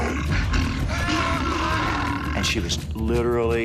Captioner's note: yelling